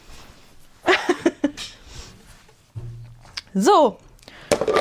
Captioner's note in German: gelächter